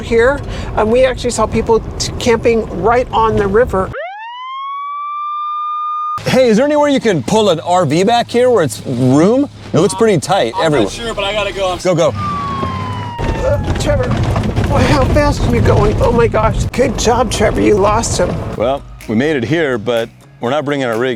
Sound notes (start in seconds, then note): 3.9 police siren; 13.4 car rattling